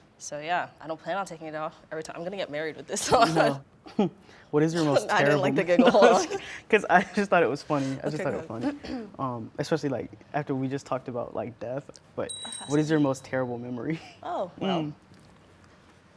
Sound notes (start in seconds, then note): 3.0 laughing; 4.8 giggling